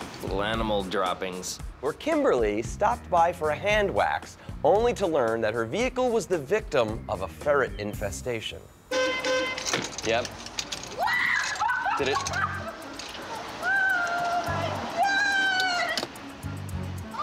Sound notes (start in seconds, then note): 8.9 horn honks